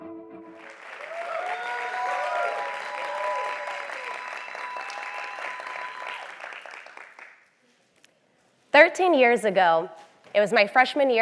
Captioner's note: applause